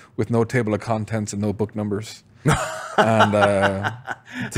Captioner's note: laughs